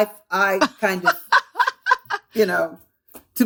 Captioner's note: laughter